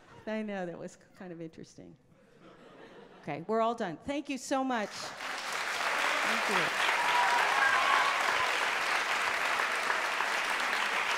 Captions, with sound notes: I know, that was kind of interesting. Okay, we're all done. Thank you so much! (audience applause) Thank you. (audience cheers)